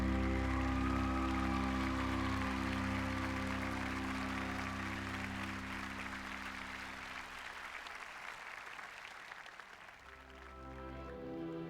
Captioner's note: applause